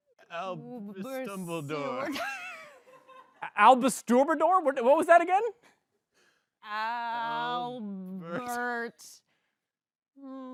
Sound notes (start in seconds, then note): 3.2 laughs